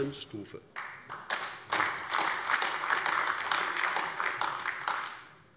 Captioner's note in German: Beifall AfD